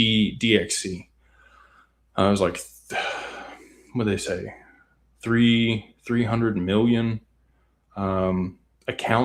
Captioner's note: sighs